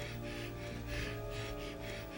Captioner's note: panting